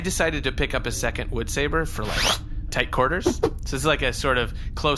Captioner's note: swooshing stick noise